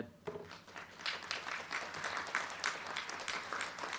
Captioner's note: crowd clapping